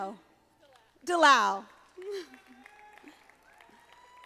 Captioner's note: audience applauding